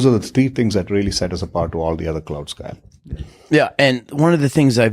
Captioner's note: murmurs